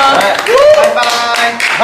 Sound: clap clap clap

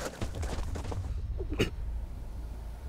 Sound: coughing

